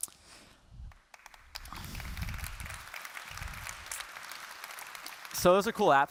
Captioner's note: applause